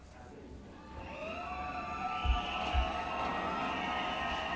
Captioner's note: loud cheering